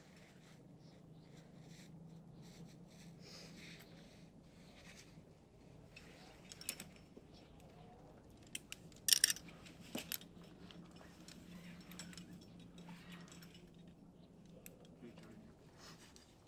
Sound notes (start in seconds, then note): 9.0 gear crackles